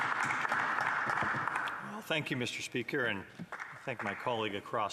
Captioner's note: some Applause